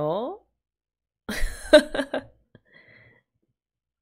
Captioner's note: laughs